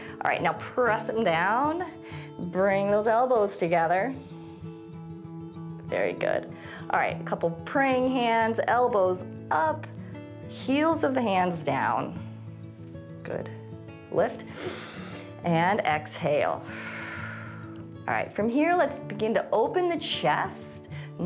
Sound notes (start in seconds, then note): 14.4 inhales; 14.4 exhales